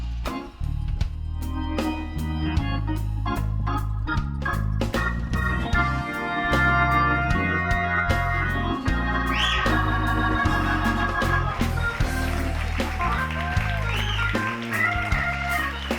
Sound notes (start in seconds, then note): 4.5 groovy music continues; 9.2 audience member whistles; 10.3 audience applauding; 10.8 groovy music continues